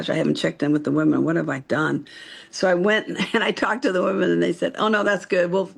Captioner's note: laughs